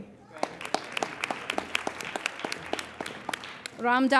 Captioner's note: applauding